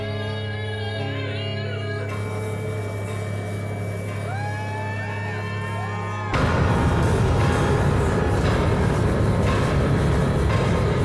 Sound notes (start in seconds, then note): 4.2 audience cheering; 8.2 dramatic music